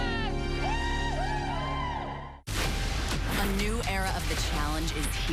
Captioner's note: whooping